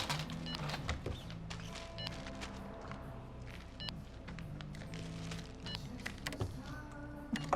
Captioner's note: scanner beeps